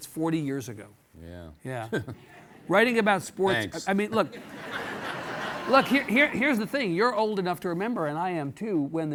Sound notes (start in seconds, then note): 1.9 laughs; 4.0 audience laughing